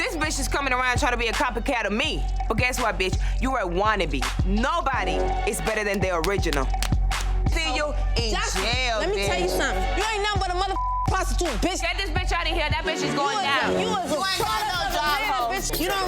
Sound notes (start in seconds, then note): 10.7 beep; 14.2 overlapping chattering